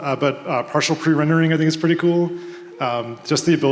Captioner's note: none